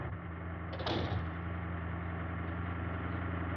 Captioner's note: door closes